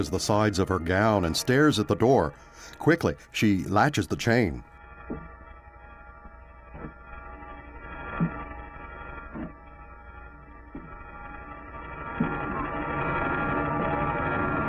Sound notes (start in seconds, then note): 5.0 footsteps approaching